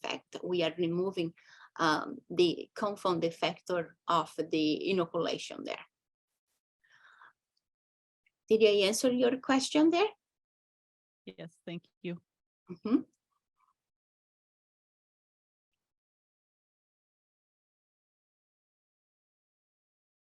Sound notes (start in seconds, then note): 14.9 silence